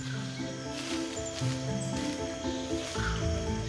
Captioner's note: leaves rustling